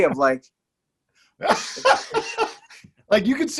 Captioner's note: laughing